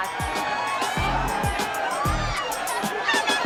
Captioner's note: cheering